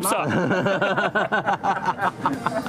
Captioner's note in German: Lachen